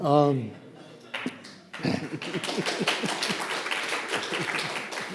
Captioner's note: audience applauding